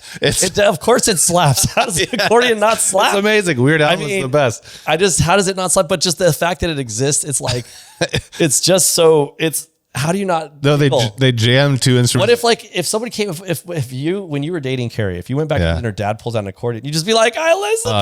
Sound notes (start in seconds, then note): 7.4 laughs